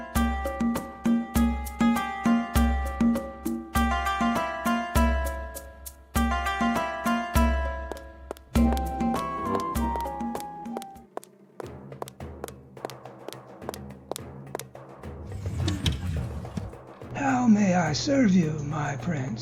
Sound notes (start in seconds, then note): 8.2 walking sounds; 15.2 door sliding open